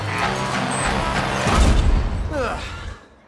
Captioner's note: door clangs shut